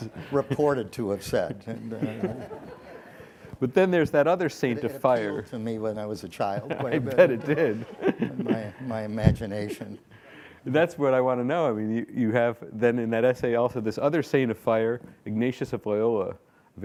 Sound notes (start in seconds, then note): 1.1 audience laughs; 6.4 laughing